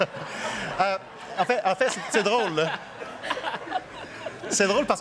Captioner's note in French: rires